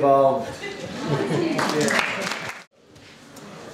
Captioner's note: applause